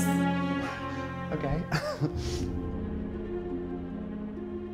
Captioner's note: chuckles; gentle music